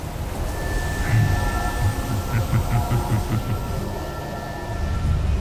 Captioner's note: cackles